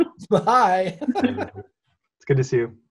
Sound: laughs

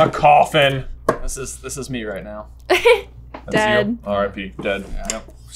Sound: laughing

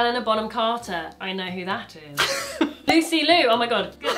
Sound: cork popping; laughs; cork popping

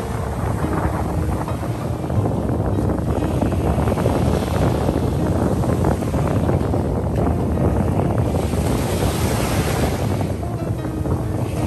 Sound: waves, Wind and Music

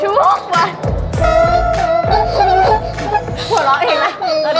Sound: she’s laughing at her own singing

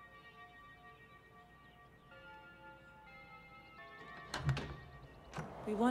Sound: doorbell rings to the tune of " "

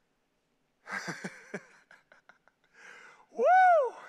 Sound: preacher laughing

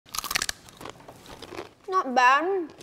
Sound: chips crunching

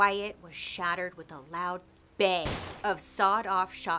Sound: gunshot bang

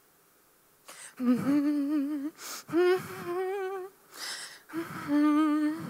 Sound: participant humming

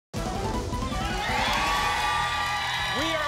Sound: applause and cheering

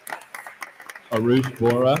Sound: attendees applauding

